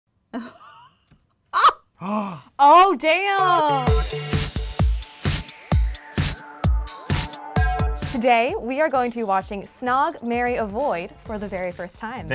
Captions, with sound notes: (laughs) (gasps) - Oh damn! (upbeat techno music) - Today, we are going to be watching "Snog Marry Avoid?" for the very first time.